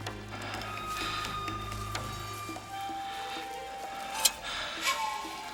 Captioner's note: man breathing heavily